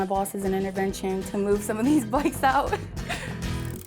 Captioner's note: giggles